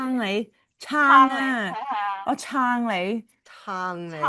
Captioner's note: sounds of agreement